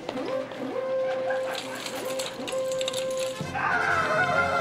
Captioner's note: screaming